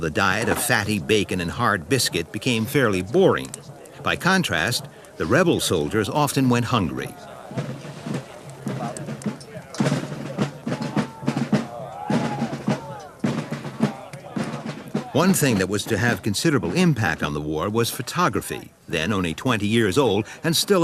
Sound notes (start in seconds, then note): 8.9 rhythmic drumming; 8.9 soft chattering